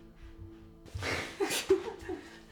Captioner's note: laughing